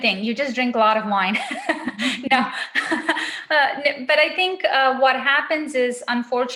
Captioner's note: laughs